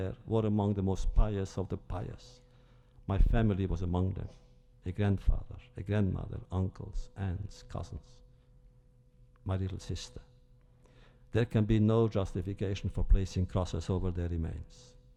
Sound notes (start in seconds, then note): none